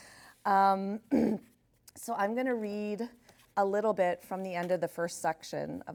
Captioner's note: clears throat